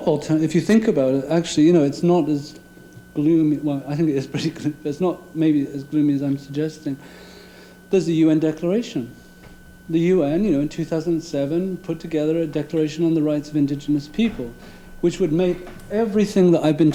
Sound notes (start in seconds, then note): none